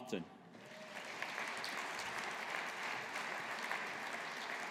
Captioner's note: audience applauding